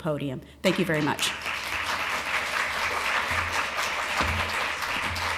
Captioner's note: applause